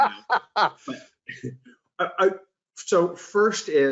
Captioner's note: laughs